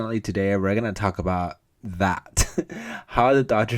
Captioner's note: chuckles